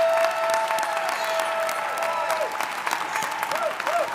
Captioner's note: attendees cheering